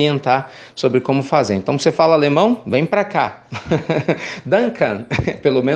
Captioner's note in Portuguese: risos